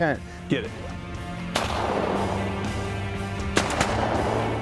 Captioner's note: gun shots